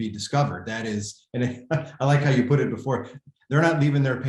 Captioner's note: laughter